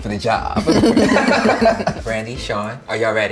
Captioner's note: laughter